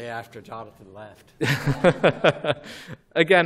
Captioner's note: laughter